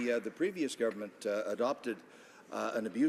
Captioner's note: some Applause